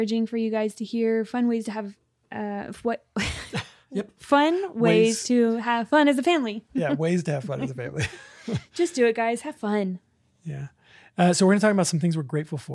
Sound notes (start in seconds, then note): 2.7 laughs